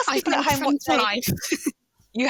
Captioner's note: chuckles